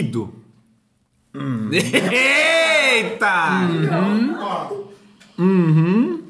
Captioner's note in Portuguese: risos